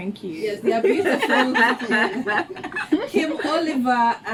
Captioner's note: laughs